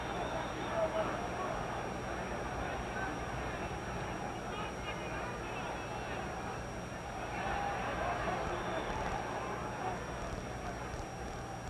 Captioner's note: applause